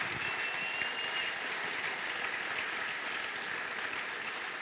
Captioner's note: cheers and applause